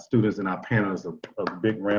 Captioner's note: applause